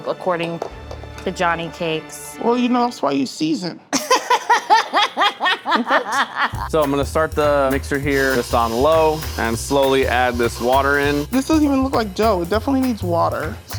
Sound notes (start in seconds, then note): 3.9 laughing; 4.1 upbeat music; 8.6 mixer whirring